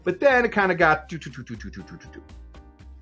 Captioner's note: imitates drumming